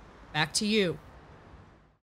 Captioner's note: ambience fades out